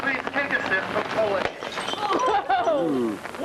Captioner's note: glass breaking